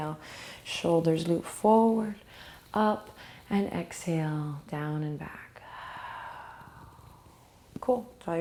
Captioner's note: breathing